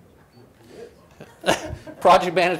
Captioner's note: laughs